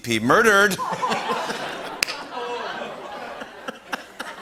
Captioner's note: laughter